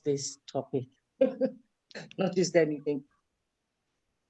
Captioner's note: laughs